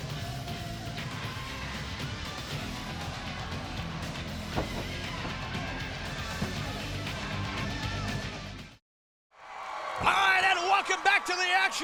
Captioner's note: crowd cheering